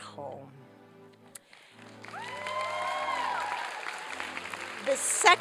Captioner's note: applause and cheering